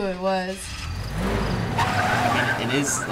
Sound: engine revving; tires squealing

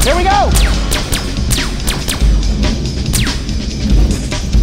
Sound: guns zapping

